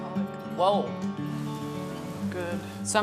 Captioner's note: pan bubbling